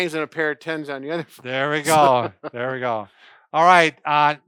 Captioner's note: laughing